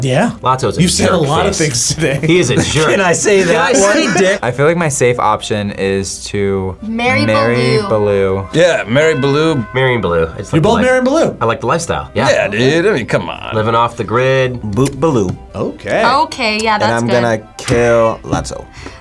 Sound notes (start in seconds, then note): 1.9 laughs